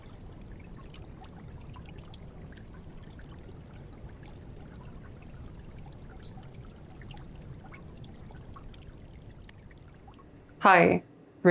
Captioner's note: water burbles and bird chirping